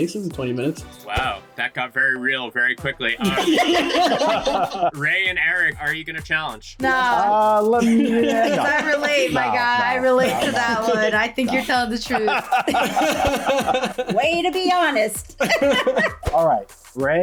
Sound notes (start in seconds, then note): 3.2 all laugh; 13.4 men laugh